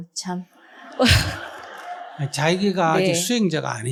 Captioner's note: audience/Questioner Laughter